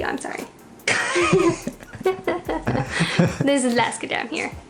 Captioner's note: laughs